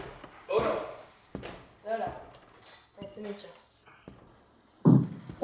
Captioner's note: both speak in foreign language briefly